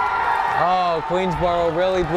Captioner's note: crowd cheers